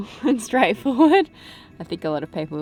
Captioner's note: laughs